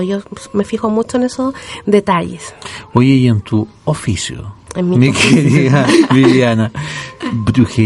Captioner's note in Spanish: risas